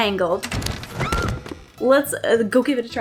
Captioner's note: squeak-scream